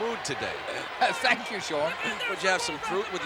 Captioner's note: laugh